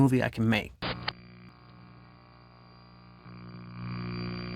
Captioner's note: static buzzes